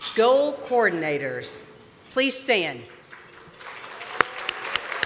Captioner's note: applause